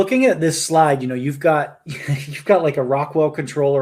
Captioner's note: laughs